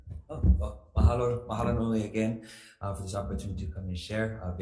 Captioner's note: speaks foreign language